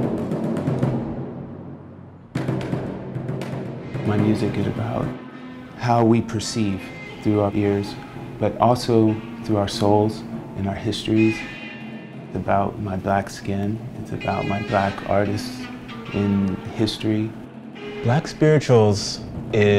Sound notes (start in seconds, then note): 4.3 voiceover; 18.2 voiceover